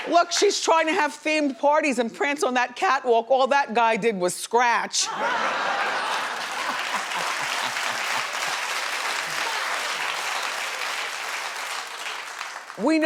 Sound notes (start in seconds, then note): 5.1 laughs; 5.8 audience clapping